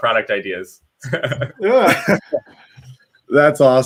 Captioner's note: laughing